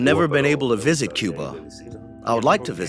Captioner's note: through translator; speaking Spanish; through translator